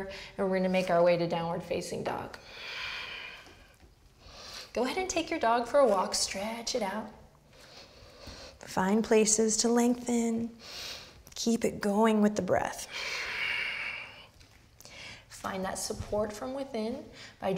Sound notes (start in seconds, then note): 12.8 heavy breath